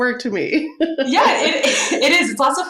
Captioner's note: laughs